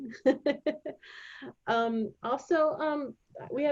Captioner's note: laughing